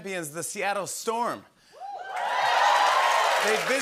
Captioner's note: cheering and applause